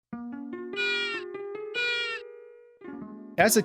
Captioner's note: penguin noises